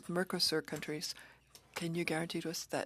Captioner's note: speaking French